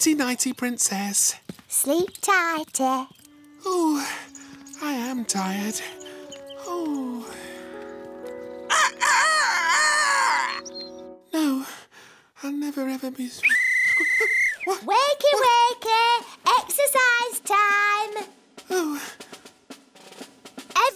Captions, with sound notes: - Nighty-nighty, Princess. - Sleep tighty. Oh, I am tired. Oh. (crows) No, I'll never ever be strong. - (whistle blows) - What? Wakey, wakey! Exercise time! Oh.